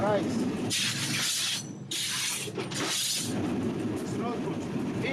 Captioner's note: train tires screeching